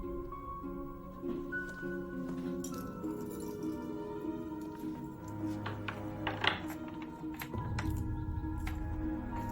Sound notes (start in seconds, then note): 2.3 keys jingle; 5.5 lock clicks